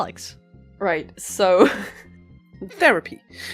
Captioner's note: laughter; laughs